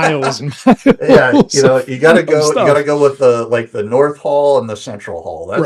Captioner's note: laughing